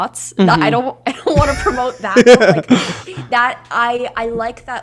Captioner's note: laughs